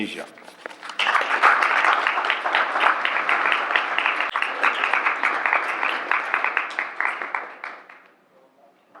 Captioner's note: applause